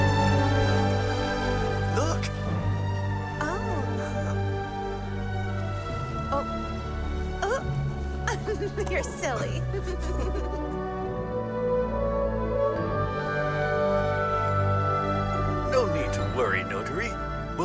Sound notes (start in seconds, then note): 8.3 she giggles